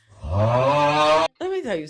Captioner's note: audience groans